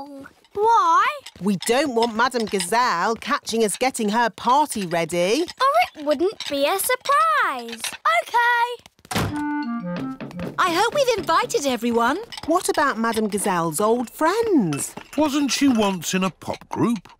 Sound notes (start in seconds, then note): none